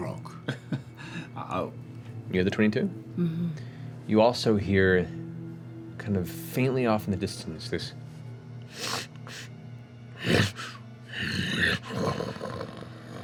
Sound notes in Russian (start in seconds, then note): 10.2 шмыганье и рык